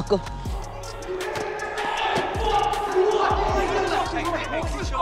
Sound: yelling

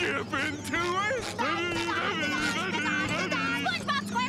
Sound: humming

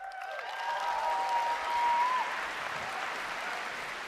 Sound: applause

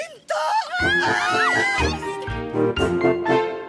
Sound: all exclaiming

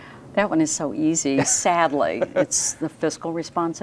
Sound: laughing

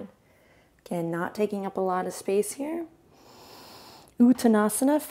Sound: inhales

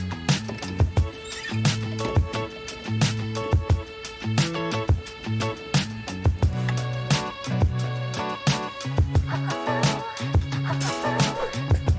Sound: sizzling

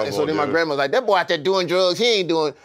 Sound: grandma voice

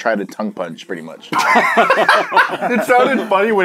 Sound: manly laughter once again

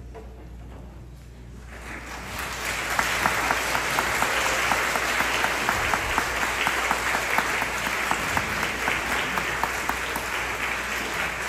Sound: applause

